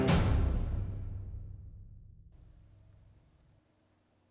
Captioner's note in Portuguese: silêncio